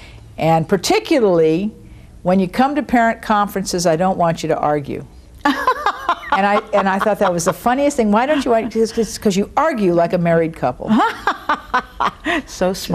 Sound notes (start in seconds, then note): 5.4 laughing